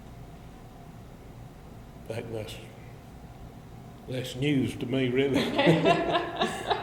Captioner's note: both laugh